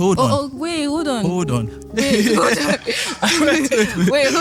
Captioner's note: laughing